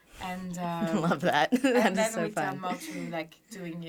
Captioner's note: laughing